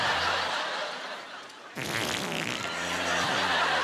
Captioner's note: imitating flatulence